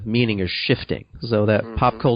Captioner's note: affirms